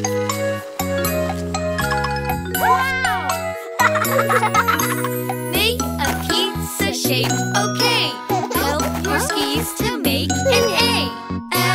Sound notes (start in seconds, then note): 0.2 happy music; 4.1 children laughing